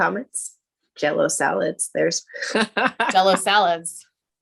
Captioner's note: laughing